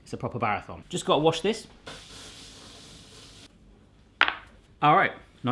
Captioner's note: water running